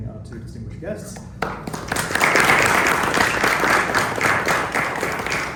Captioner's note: applause